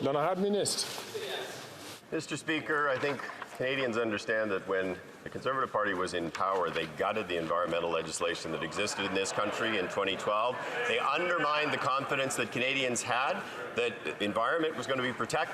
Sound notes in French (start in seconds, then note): 2.4 voix de l'interprète